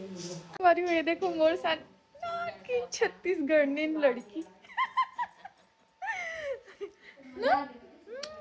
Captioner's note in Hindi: हंसी